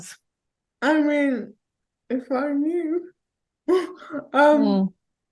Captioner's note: scoffs